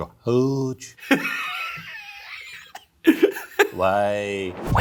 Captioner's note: laughing